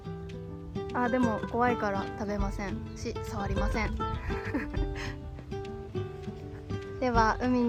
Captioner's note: laughs